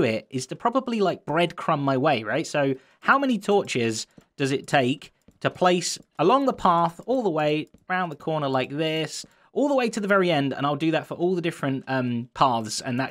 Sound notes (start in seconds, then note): none